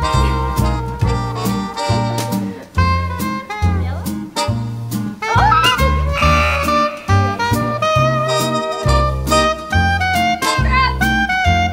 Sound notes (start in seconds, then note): 5.2 screams; 6.2 buzzer